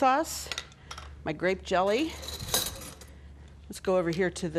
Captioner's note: spoons clanging